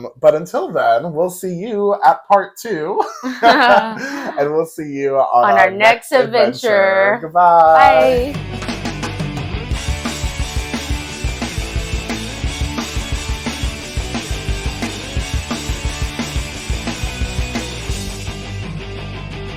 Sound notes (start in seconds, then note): 2.9 laughing; 7.6 upbeat music